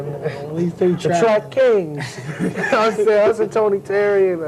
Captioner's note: laugh